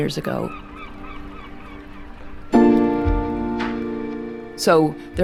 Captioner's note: birds calling; bells chime